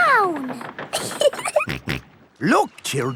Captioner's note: giggling; snorts